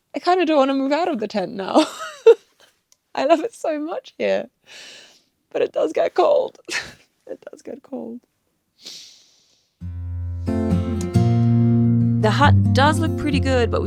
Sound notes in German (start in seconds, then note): 2.9 lacht; 6.6 lacht; 9.8 Fröhliche Musik